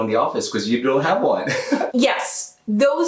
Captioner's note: laughs